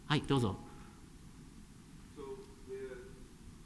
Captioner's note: speaking japanese